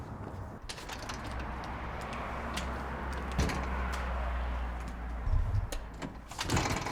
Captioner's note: footsteps tapping; traffic whooshing; door rattles